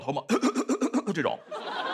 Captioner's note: cough cough cough